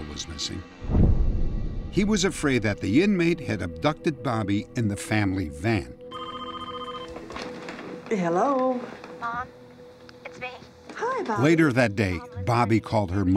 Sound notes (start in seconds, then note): 6.0 phone ringing; 8.9 on phone